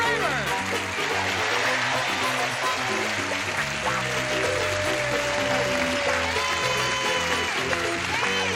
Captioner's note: cheering